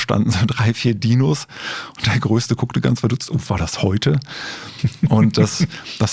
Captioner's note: laughing